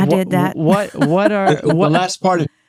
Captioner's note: laughing